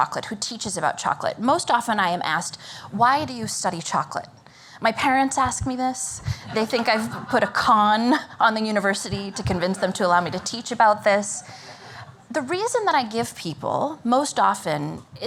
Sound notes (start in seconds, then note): 6.2 laughter